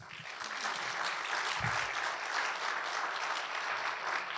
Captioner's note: audience applauding